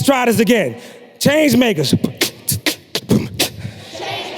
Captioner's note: beatboxing